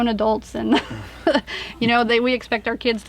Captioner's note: laughs